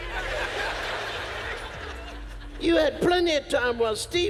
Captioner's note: audience laughs